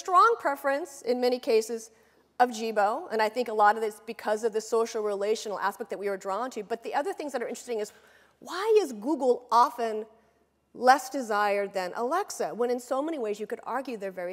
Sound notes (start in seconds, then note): none